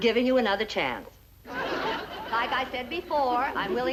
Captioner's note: audience laughing